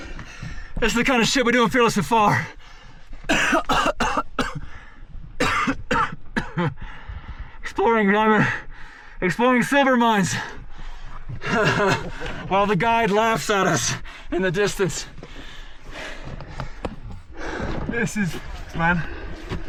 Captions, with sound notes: This is the kinda shit we do in "Fearless and Far" (coughs). Exploring silver mines while the guide laughs at us in the distance. - This is, man.